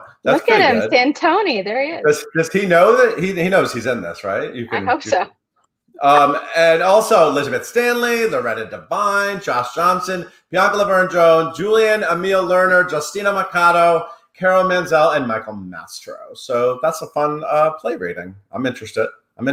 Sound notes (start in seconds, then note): 4.3 laughs